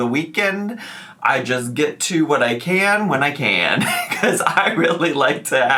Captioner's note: laughs